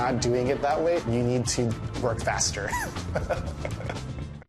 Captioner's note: laughs